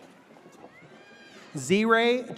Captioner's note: audience cheers